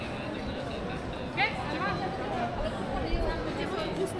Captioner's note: people chattering